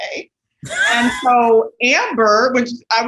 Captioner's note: laughs